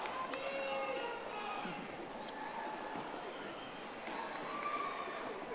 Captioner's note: audience applauding